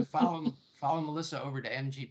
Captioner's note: laughing